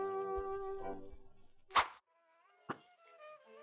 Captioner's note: swish